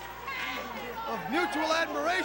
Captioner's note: crowd chatter